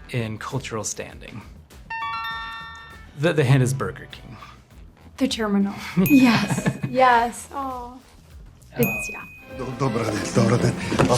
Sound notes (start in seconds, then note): 1.9 buzzer dings; 9.9 mumbles